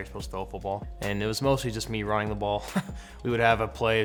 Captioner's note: chuckles